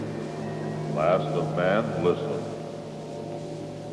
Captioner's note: disembodied Voice